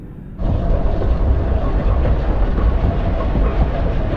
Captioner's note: mechanical rumbling